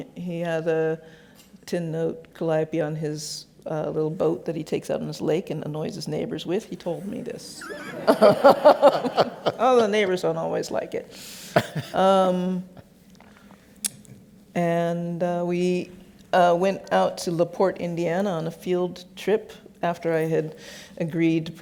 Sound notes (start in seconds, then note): 7.5 laughs; 11.6 laughs